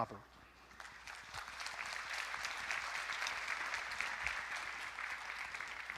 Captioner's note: audience applauding